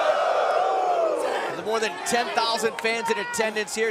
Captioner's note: crowd cheering